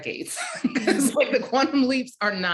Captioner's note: laughing